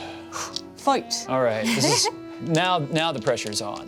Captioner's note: laughs